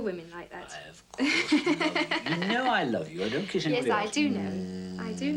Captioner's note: laughs